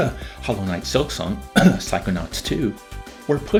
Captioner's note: cough